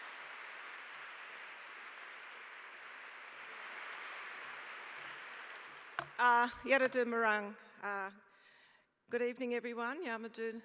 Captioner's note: applause